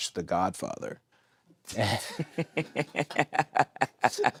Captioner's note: all laugh